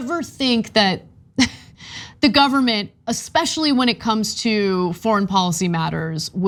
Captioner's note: laugh